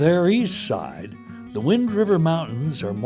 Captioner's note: voiceover